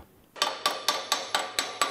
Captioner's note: hammering